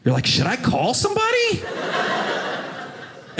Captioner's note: audience laughing